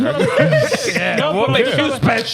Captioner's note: laughing